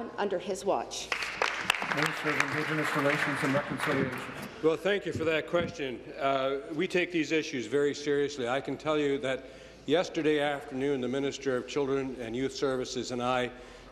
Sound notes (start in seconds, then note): 4.4 applause